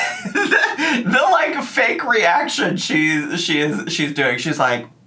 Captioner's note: laughs